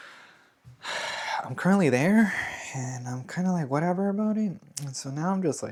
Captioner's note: sighs and gasps